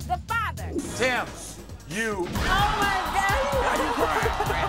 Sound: crowd cheering

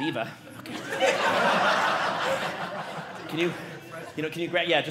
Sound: audience laughing

